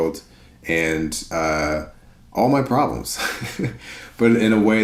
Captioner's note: chuckles